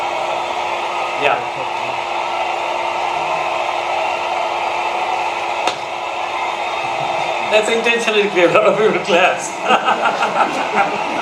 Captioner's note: laughing